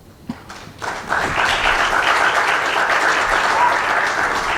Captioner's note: crowd clapping